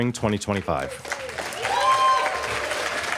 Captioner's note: applause